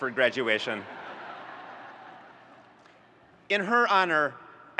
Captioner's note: audience laughing